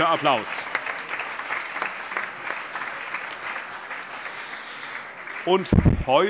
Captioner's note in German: Allgemeiner Beifall